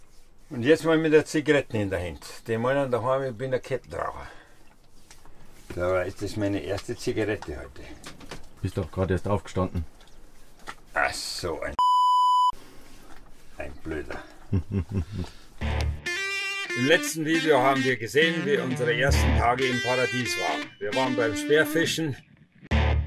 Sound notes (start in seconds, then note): 11.8 beeeep; 14.4 laughing